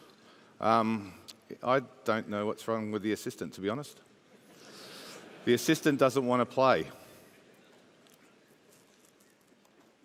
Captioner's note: laughter